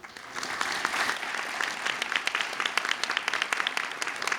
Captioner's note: audience clapping